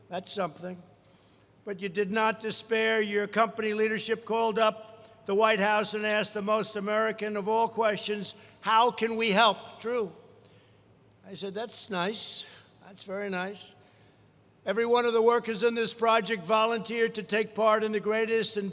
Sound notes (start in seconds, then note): none